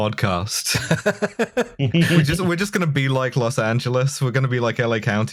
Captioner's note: laughter